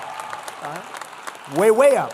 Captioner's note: applause